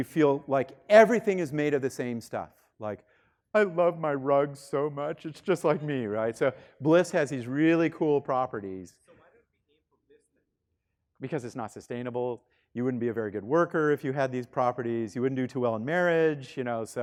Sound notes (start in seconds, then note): 9.3 student speaking faintly